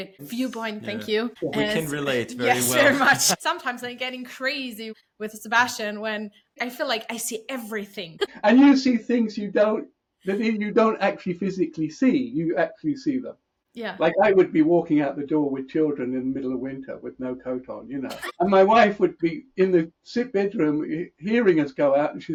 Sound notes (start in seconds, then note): 8.1 laughs